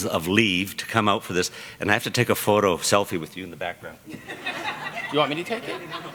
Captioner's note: laughter